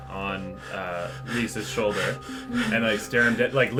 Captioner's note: panting heavily in character